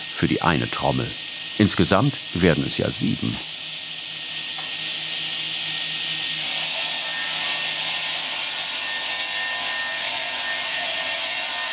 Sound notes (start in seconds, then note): 5.3 saw noises